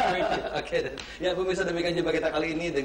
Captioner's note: speaking indonesian